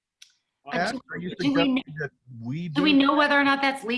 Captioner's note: speaking in unison